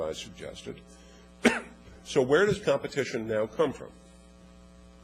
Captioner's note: cough